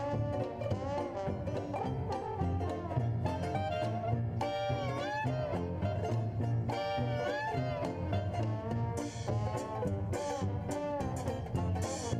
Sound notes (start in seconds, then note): none